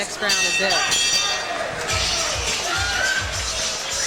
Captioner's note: applause from audience